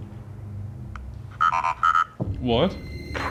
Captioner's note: ovilus buzzing